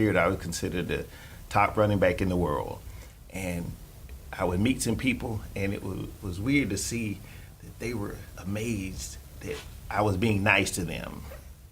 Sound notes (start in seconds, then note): none